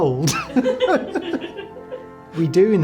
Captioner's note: laughs